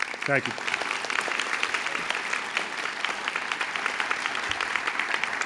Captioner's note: audience clapping